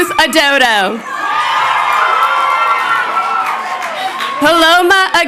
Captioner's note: crowd cheering